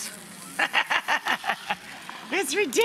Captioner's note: laughs